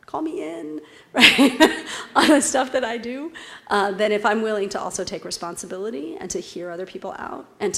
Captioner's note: laugh